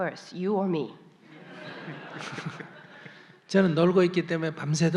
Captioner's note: audience Laughter